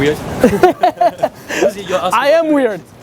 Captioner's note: both laughing